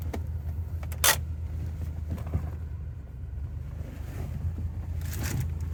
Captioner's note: engine idling; handbrake scraping; engine idling